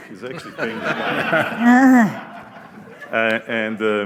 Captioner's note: laughter